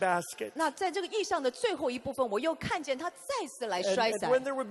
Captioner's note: interpreter speaking in foreign language